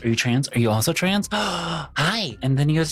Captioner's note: gasps